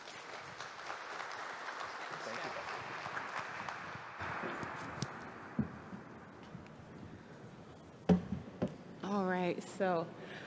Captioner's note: applause